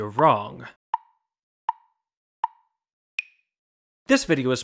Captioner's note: tick, tick, tick, tick, tock